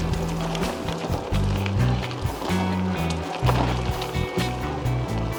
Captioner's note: rattling over bumps